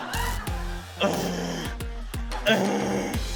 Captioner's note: groans